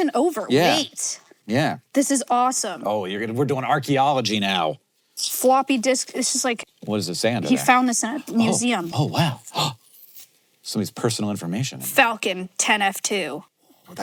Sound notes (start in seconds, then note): 9.8 gasps